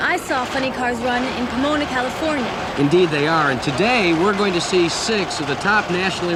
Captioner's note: audience cheering